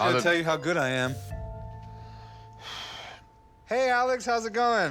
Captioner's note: sighs